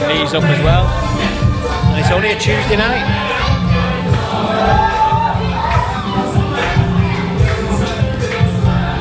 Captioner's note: party noise